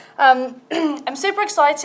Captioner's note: clears throat